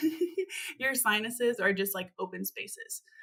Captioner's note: chuckles